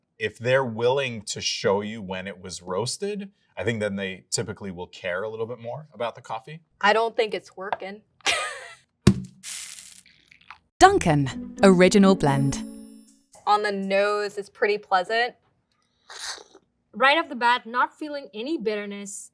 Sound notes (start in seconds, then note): 9.0 bag thudding and coffee pouring